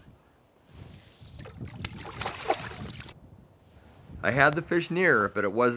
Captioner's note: splash